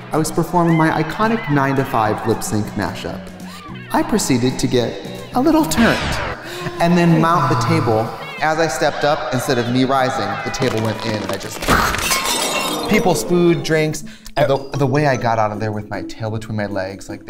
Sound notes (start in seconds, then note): 10.1 crashing